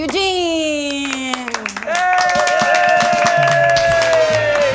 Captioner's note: cheer